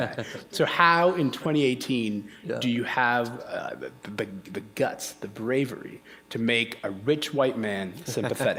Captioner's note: chuckle